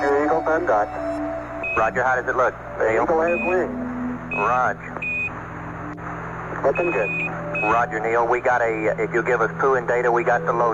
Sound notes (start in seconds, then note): 6.6 beeping